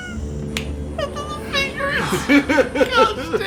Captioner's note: squeaking